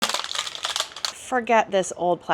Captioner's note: crunching sounds